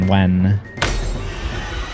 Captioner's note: crack